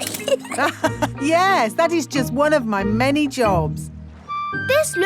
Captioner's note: laughs